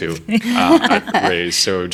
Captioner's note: laughing